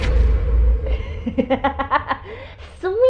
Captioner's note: laughs